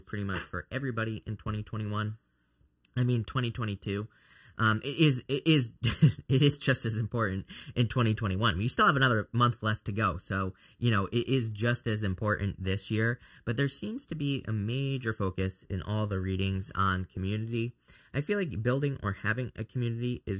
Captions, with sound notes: pretty much for everybody in 2021. I mean, 2022. It is (chuckles) just as important in 2021. We still have another month left to go, so, you know, it is just as important this year, but there seems to be a major focus in all the readings on community. I feel like building or having a community